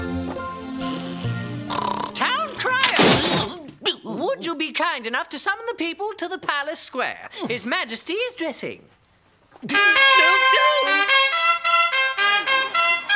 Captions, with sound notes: - Town crier! Would you be kind enough to summon the people to the palace square? His majesty is dressing. (horn blows)